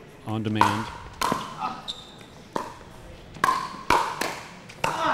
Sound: ball bouncing

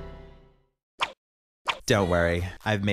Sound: spooky music; logo swooshing

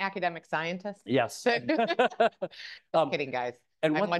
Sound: both laugh

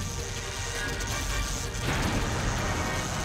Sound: electricity crackling

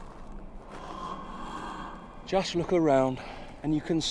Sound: inhales

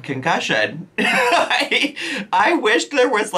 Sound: laughing

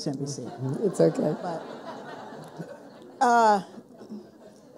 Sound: people laughing

